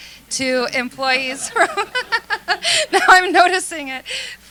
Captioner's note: laughter